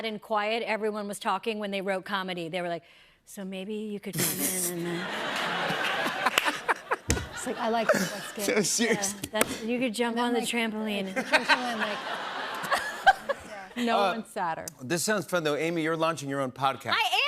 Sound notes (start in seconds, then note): 4.8 laughter; 11.1 laughter